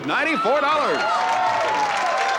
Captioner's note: applause